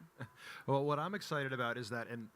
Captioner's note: chuckles